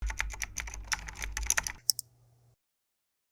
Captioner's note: keyboard typing sounds